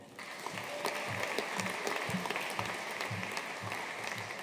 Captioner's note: audience applauding